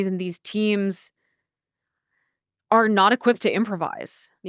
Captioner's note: none